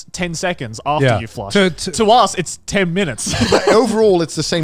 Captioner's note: laughs